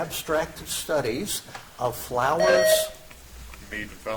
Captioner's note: buzzer chimes